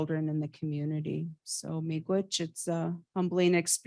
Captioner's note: speaks in indigenous language